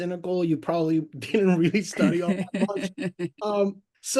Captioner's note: laughs